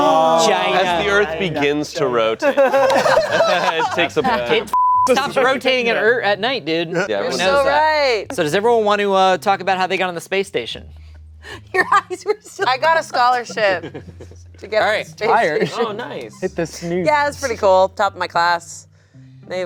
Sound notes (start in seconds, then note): 2.4 everyone laughing; 4.7 beep